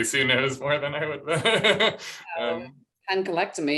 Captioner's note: laughter